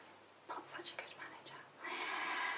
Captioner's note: whispering